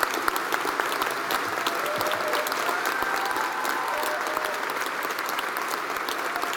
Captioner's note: applause